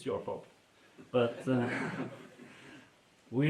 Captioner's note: laughter